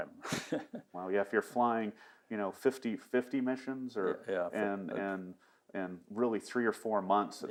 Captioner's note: laughing